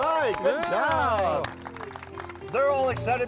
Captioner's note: clapping